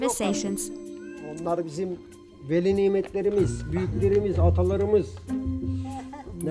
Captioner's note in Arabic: بالتركية